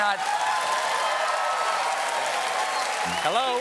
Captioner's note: cheers and applause